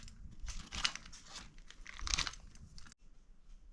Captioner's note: crunching